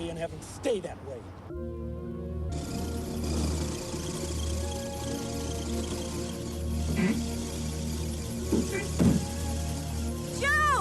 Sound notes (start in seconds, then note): 1.9 dramatic music; 2.5 car engine revving; 8.9 car door thudding